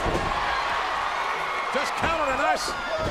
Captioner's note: audience cheers